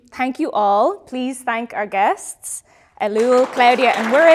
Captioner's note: audience applauding